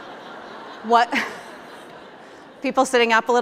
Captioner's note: laughter